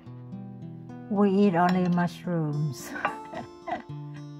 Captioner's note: laugh